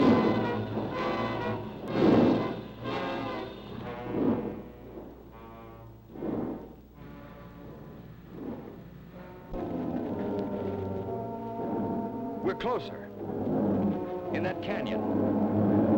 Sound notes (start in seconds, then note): 0.0 dramatic music; 0.0 lizard bellowing; 9.4 lizard bellowing; 9.4 mysterious music; 15.8 lizard bellowing; 15.8 mysterious music